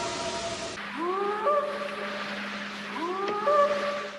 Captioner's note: eerie howl; short howls